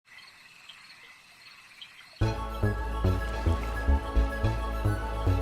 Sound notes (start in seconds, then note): 0.0 insects chirping; 2.2 pleasant music